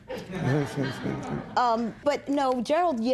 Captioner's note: laughter